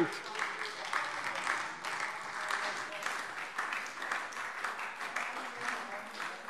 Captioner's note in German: Beifall SPD